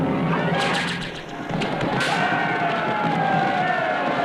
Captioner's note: neighing